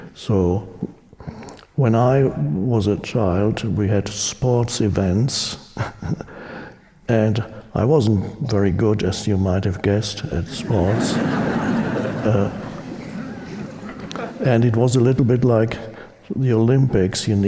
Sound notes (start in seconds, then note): 10.4 audience laughing